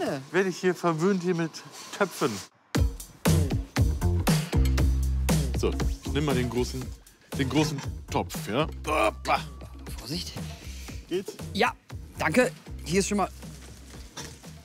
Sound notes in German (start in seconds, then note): 2.5 Dynamische Musik; 8.8 ächzt